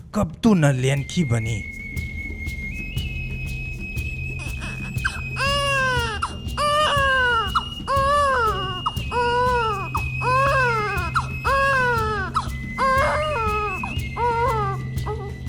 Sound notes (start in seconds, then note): 2.5 baby crying